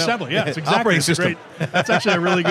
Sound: laughs

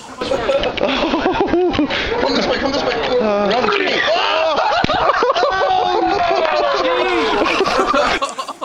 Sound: slap; laughter; crowd laughs

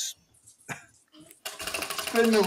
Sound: wheel ticking

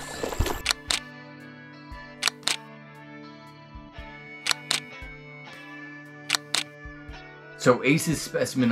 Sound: camera shutter sounds

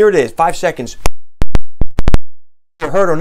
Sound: static

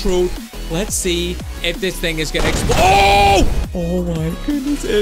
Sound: shouts

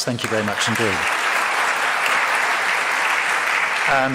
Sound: audience claps

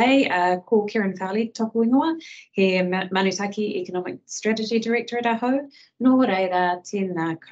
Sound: speaking in te reo Māori

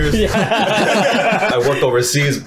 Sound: laughing

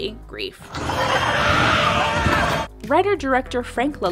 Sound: intense horror screeching

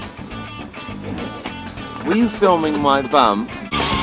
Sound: british accent

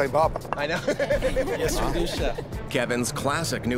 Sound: laughs

